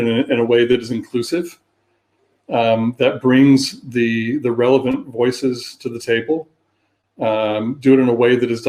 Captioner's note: erm